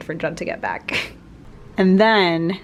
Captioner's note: laugh